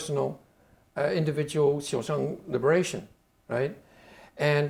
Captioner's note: speaking Chinese